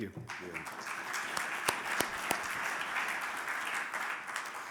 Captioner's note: audience applauding